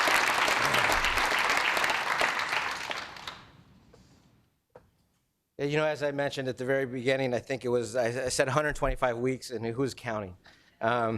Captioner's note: applause